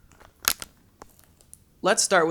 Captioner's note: gun cocks